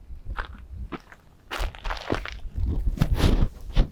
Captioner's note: footsteps